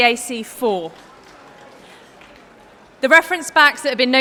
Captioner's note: applause